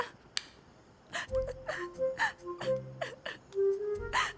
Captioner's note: Shalini sobbing